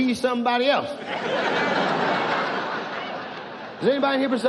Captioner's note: audience laughs